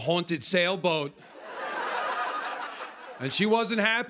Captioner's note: laughter